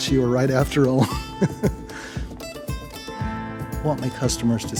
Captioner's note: laughs